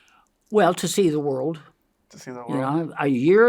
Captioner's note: inhales